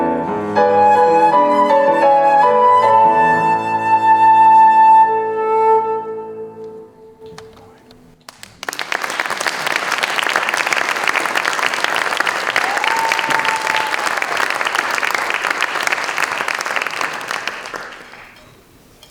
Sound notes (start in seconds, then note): 9.5 applause